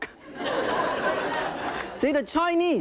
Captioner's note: audience laughing